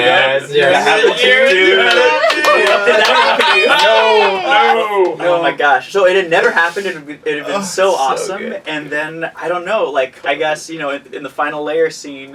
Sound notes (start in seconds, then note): 3.7 clapping; 3.7 shouts